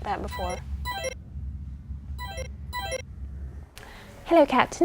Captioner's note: tone ringing